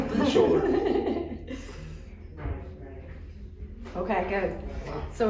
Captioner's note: laughs